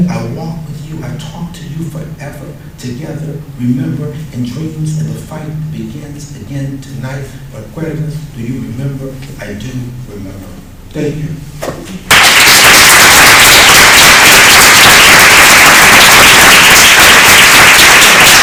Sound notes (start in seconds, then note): 12.1 applause